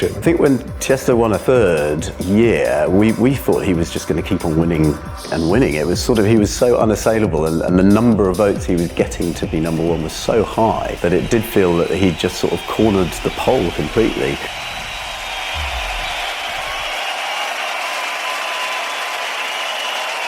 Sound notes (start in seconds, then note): 14.6 crowd cheers